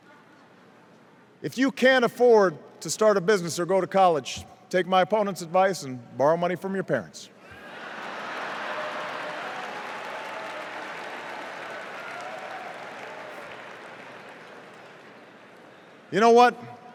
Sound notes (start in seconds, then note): 7.5 laughter, applause, boos